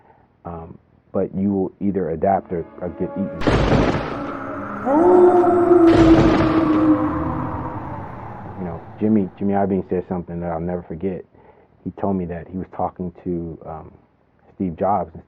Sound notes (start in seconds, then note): 3.4 thunder striking; 4.9 wolf howling